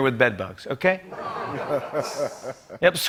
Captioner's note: laughter